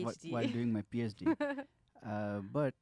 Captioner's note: laughs